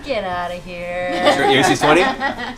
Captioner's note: laughter